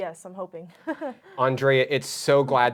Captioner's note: chuckling